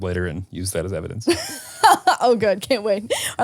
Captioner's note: laughs